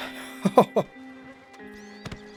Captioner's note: laughs